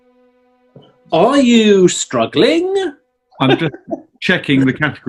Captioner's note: chuckling